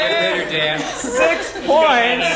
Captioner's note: laugh